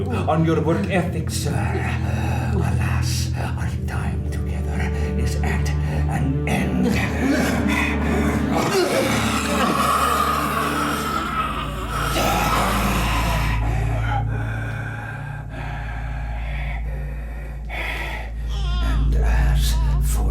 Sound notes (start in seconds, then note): 6.7 Dracula growls; 18.4 baby cries